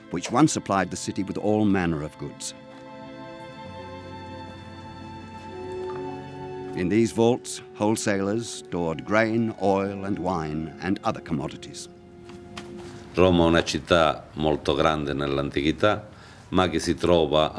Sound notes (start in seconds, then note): 13.1 speaking Italian